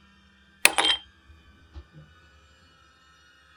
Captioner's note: ice cubes clink into an empty glass